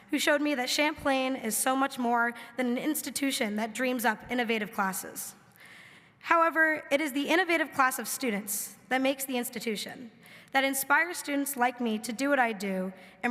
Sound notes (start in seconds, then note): none